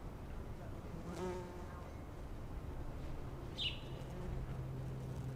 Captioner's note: bees buzzing & birds singing